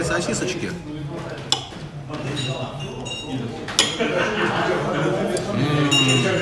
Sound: din and clink of dishes

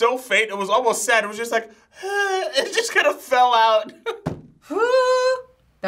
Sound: laughs

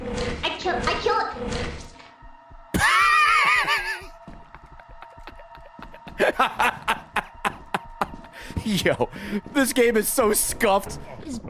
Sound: laughs

